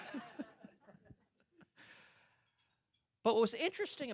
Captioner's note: laughter